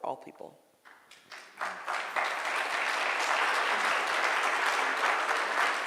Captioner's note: audience clapping